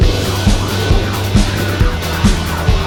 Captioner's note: torch making noise